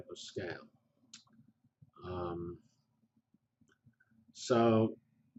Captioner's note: pause